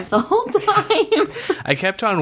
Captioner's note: laughs